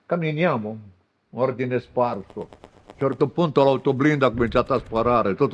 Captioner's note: machine gun fire